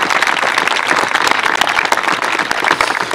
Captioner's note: applause